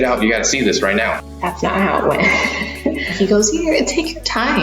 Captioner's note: laughs